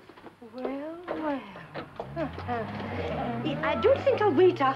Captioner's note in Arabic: يضحك